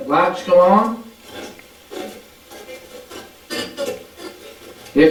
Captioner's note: static playback transmitting